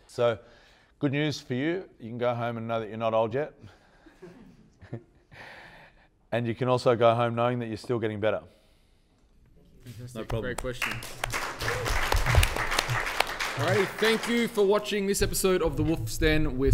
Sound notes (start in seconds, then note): 4.1 laughing; 12.1 clapping